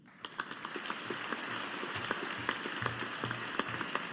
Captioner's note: audience applauding